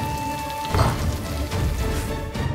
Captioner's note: raindrops pattering